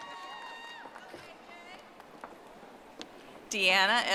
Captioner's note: audience applauding